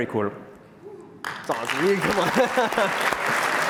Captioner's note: applause